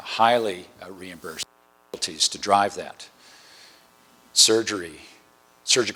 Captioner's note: distortion